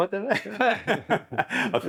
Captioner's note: laugh